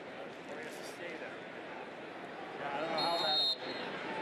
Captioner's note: chatter